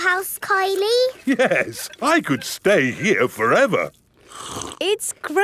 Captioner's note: slurps